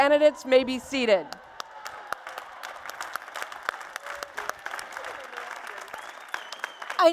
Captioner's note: applause and Cheers